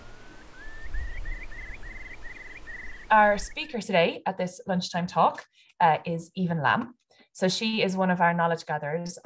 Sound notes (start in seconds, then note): 0.0 sound of waves and a curlew calling